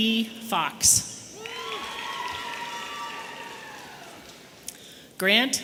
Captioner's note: audience cheering